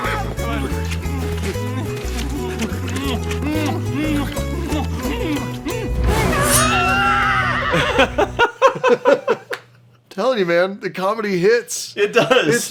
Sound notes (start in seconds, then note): 5.7 shrieks